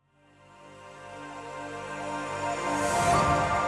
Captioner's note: ethereal ringing